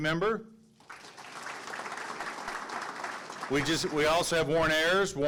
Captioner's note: audience clapping